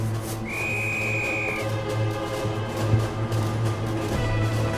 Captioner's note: whistle trilling